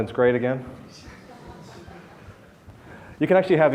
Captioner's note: audience laughs